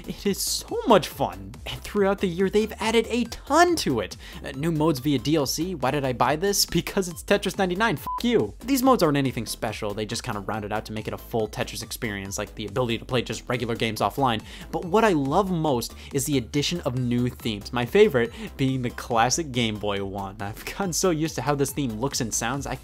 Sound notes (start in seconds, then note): 8.0 beep